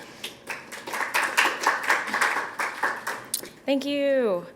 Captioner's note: applause